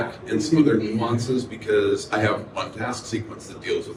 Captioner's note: none